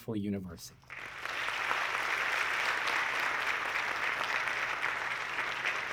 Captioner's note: audience clapping